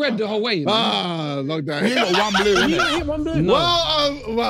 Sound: laughs; laughs

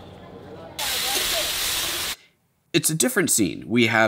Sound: food frying

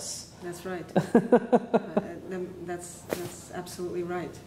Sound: interviewer laughs

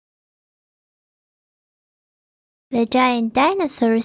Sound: none

